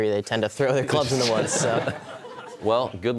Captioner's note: laughter